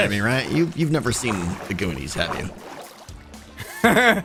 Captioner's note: nervous laughter